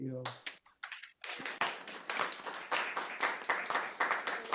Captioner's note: audience applauding